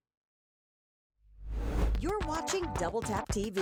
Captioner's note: air whooshes